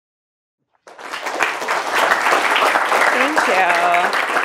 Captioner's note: audience applauding